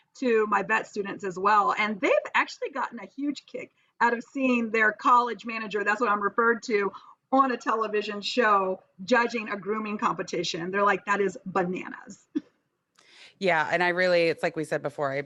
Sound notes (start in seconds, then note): 12.7 chuckles